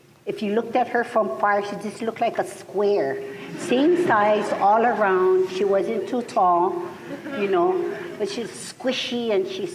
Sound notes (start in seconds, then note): 4.8 laughter